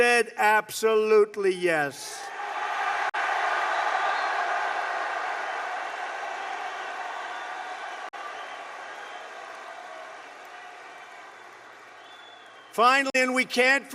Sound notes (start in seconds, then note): 6.8 applause